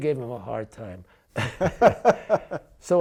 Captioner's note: laughs